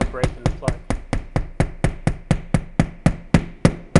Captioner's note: hammer tapping